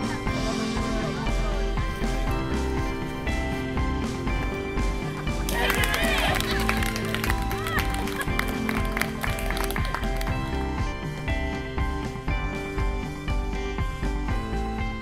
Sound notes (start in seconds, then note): 5.4 applause; 8.3 upbeat Music